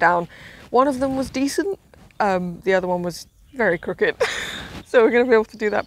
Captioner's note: laughs